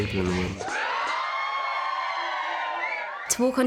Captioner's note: all cheering